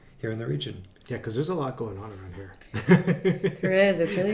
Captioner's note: laughs